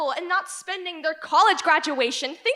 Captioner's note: none